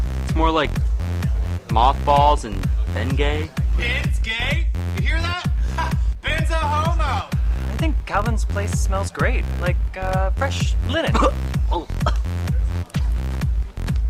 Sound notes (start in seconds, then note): 11.0 gags